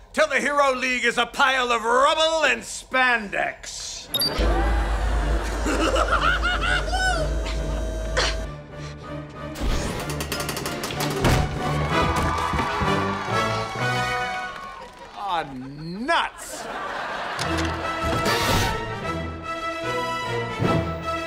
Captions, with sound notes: is a pile of rubble in spandex! [laughing] Uh. Ah, nuts.